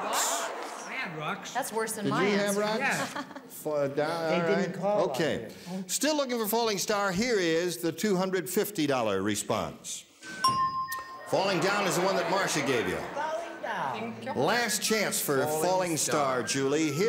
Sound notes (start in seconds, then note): 10.3 bell dings; 11.3 crowd groans